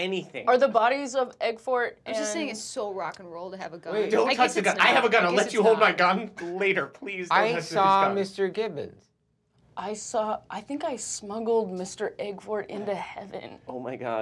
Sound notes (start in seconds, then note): none